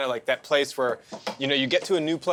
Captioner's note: none